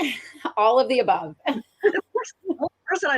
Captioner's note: laughs